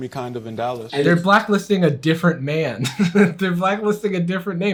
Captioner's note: laughs